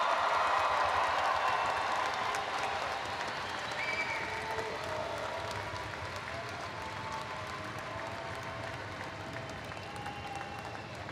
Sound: cheering

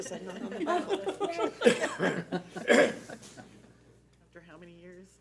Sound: board members laughing

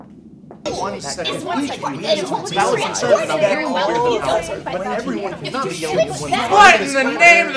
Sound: loud arguing and discussion

